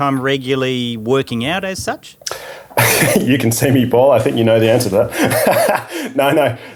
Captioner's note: laughing